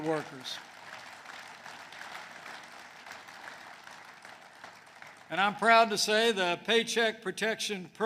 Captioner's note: applause